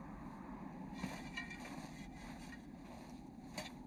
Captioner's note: metal dragging